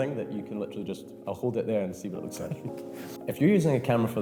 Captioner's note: chuckles